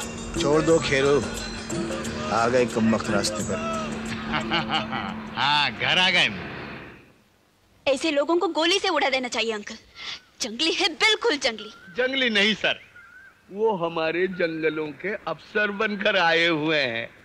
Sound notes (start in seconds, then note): 4.0 chuckles